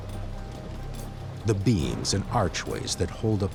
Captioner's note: water rushing